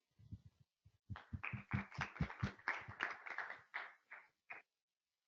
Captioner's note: applause